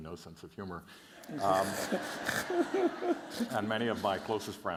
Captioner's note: laughter